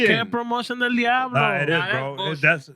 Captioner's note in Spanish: Hablando en idioma extranjero